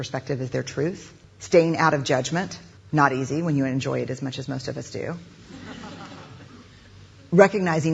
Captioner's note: crowd laughs